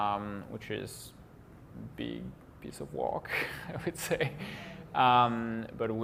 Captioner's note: laughs